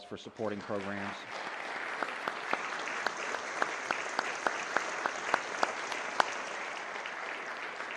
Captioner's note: applause